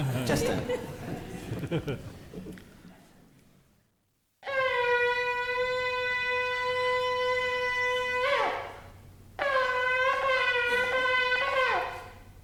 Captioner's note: laughter